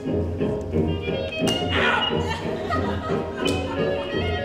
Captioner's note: hand smacks